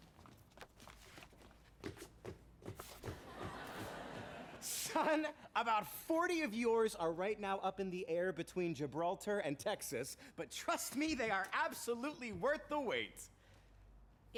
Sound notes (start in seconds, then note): 1.8 feet thudding